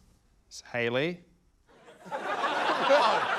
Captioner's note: laughter